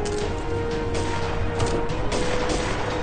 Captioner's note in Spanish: Disparos